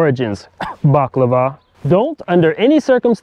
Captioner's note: cough